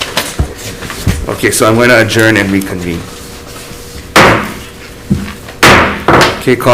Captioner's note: gavel bangs